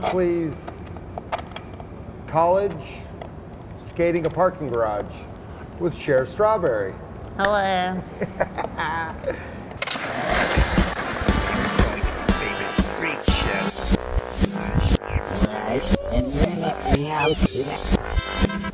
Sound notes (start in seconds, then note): 8.0 laughing; 10.5 upbeat music